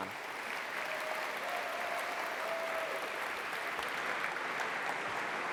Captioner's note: applause